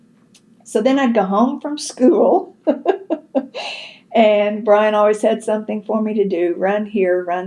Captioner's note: laughs